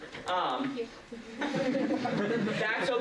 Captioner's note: laughter